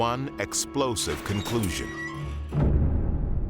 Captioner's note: creaking door